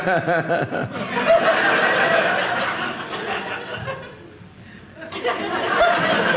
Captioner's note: audience laughing